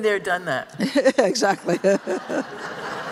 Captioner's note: laughs; laughter